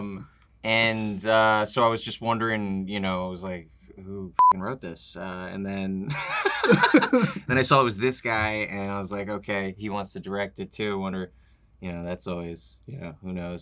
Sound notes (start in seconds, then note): 6.0 laughter